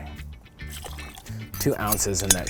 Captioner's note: liquid pouring